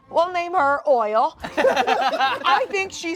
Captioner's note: everyone laughs